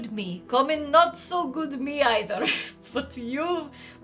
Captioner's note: laughs